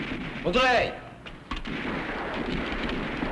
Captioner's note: non-english; gunfire